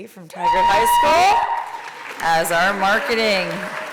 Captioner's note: applause